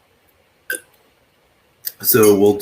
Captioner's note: slurps